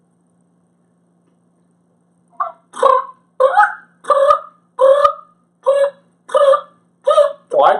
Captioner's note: turkey noise